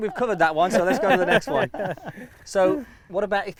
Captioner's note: laughing